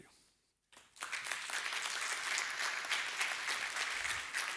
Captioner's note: applause